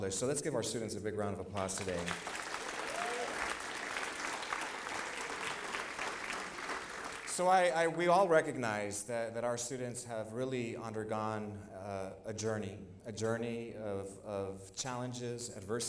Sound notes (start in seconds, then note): 1.5 applause